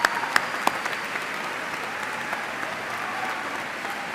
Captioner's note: cheers and applause